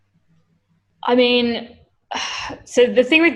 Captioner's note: sighs